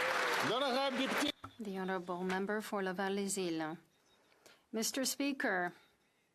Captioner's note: speaking French